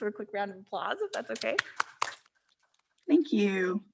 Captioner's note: board members applauding